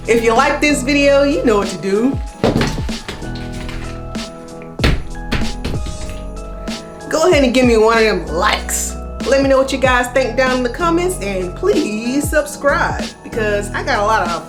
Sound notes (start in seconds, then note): 2.7 ornaments thudding